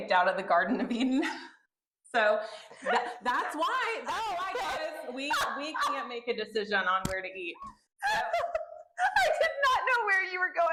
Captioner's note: laughter